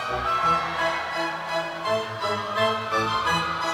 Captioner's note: audience cheers